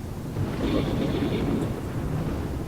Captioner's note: thunder